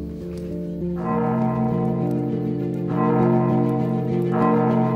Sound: gong bellows

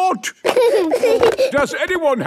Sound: giggling

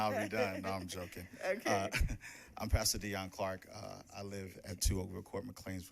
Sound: laughing

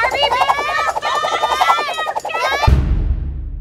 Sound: everyone yelling

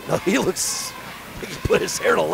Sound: laughing

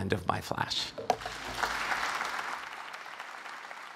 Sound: applause

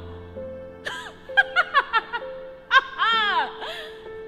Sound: laughs

